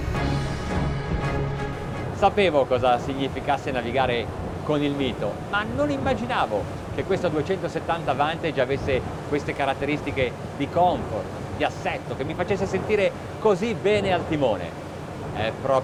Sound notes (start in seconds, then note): 2.6 speaking in foreign language